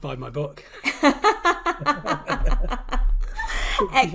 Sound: laughing

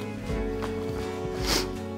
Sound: sniffs

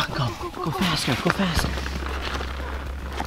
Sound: scared whispers

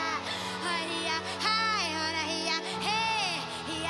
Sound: chanting

